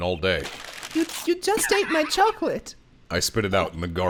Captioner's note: paper crumpling